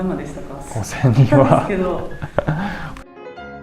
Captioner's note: laughs